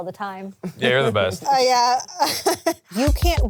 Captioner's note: laughs